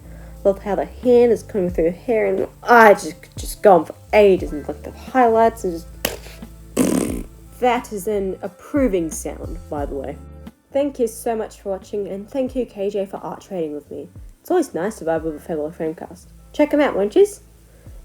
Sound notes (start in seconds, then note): 6.0 slaps